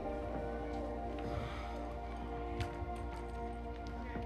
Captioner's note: sighs